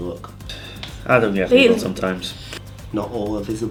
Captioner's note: sigh